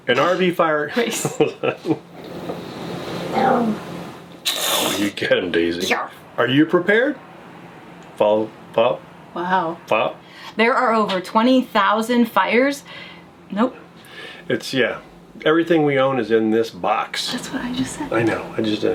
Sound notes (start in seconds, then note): 1.1 laughing; 3.1 dog growling